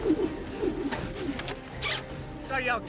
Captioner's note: air whooshing